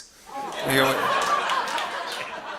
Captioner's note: laughter